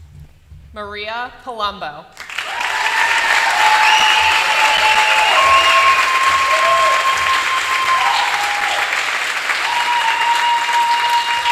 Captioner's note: applause